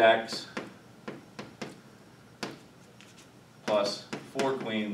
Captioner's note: chalk pen tapping